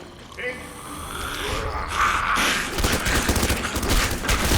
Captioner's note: speaking mandarin; snarling